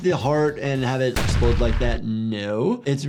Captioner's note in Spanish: explosión en auge